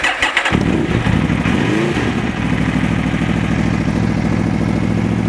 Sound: motorcycle engine starts

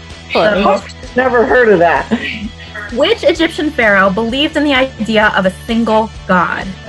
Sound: laughing

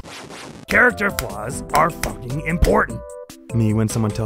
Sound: clapping intermittently

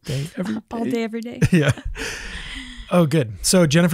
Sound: laughs

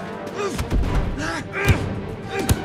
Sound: Kyle grunting

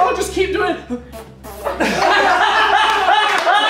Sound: blows raspberries; laughter

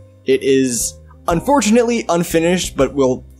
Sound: none

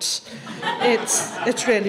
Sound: audience laughs

